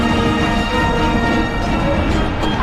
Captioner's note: screams